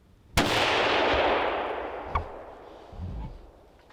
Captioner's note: gun firing